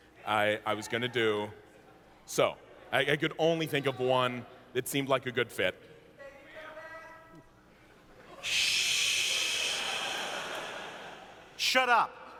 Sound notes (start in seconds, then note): 6.3 more yelling from the audience